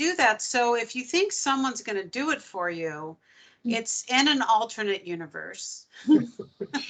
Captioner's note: laughing